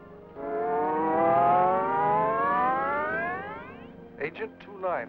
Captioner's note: scanning device hums